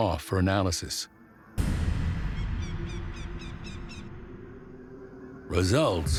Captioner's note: dramatic music; birds squawking